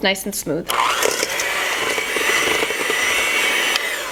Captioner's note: mixer whirs